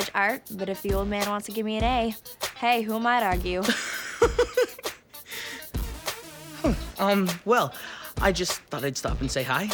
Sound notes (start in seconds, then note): 3.7 laughs